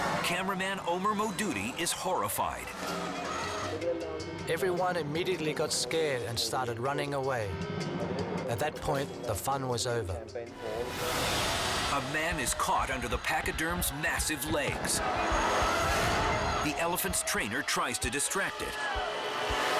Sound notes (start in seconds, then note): 3.9 speaks in foreign language; 11.0 dramatic music continues